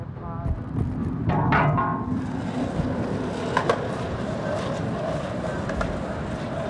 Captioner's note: clang